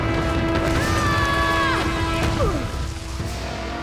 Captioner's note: screaming